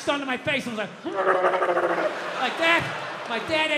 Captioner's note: Bill growls